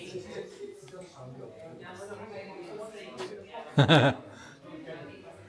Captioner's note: laughter